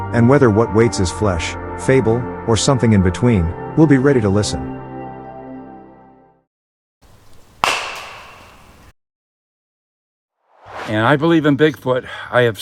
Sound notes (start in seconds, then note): 7.2 knock whacks; 10.5 air swooshes